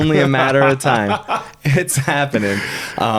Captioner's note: laughing